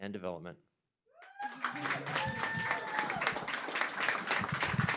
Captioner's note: cheering, applause